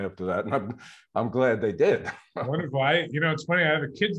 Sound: laughs

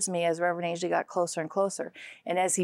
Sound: none

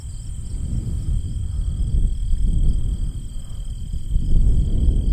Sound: wind blowing

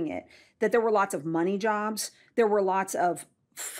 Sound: none

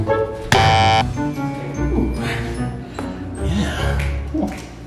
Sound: buzzer sound

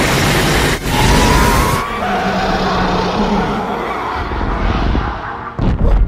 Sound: roaring in pain

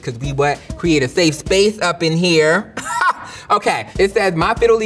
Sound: laughs

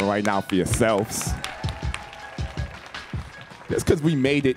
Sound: audience clapping and cheering

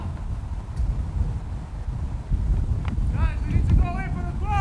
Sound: players talking and yelling

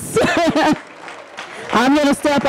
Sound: laughing

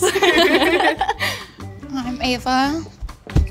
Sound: all giggling

